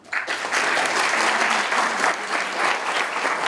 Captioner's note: applause